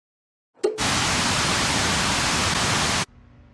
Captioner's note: static